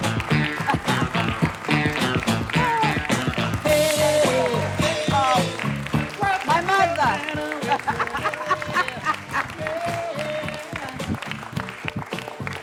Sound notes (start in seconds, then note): 0.5 laughter; 7.4 laughter